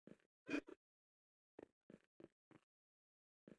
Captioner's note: witch...snorts? "hmph"s